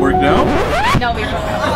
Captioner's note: disc scratching